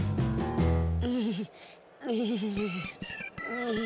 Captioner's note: whimpering